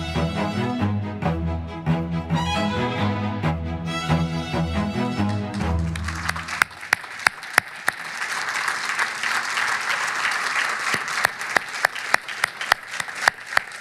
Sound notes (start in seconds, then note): 5.2 audience applauding